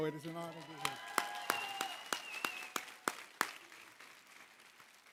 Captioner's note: cheering, applause